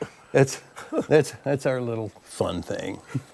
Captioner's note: laughter